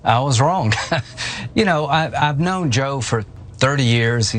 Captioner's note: laugh